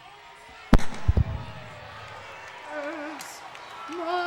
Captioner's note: mic thuds